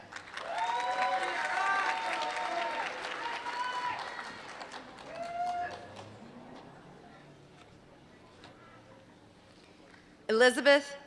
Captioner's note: applause